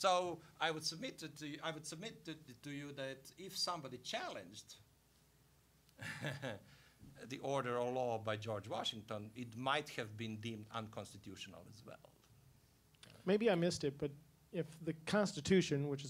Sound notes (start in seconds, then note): 6.0 laughing